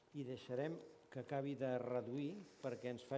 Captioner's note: non-english speech